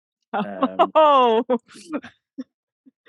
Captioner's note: laughing